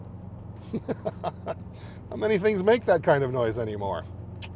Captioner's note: laughs